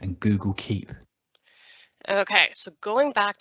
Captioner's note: YouTube Narrator’s voice playback stops